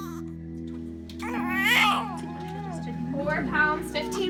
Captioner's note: baby crying